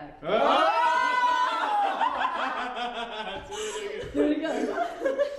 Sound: cheering and laughing

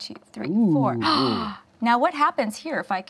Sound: gasps

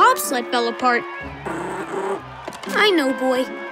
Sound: growling

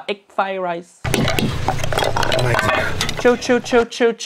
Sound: dishes clattering

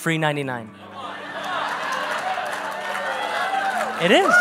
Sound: congregation applaud

